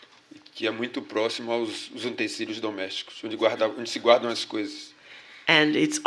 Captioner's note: speaking portuguese